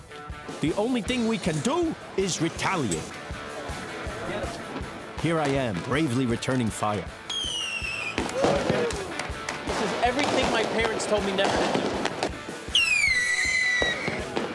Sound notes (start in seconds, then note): 7.3 fireworks screaming; 8.1 explosions; 12.0 fireworks screaming